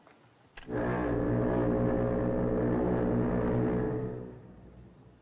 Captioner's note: foghorn Blows